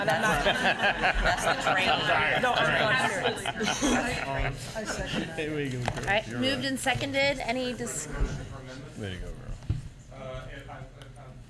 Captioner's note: laughter